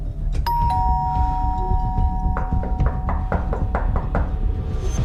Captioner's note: persistent doorbell rings and knocking